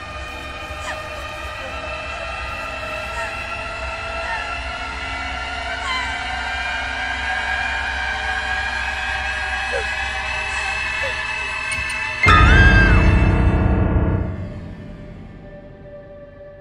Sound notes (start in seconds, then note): 12.1 screams; 14.1 suspenseful music